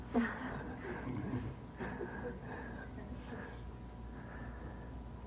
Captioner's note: participants laughing